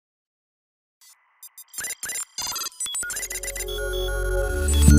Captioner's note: electronic beeping